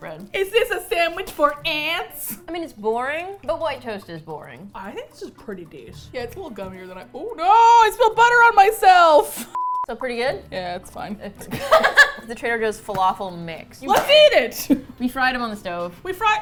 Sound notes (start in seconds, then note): 11.4 laughs